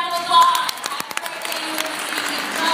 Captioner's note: applause